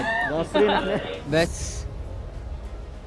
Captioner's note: laughing